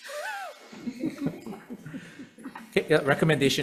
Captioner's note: light laughter